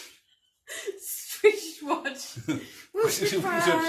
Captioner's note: laughing